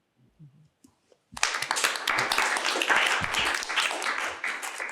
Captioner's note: applause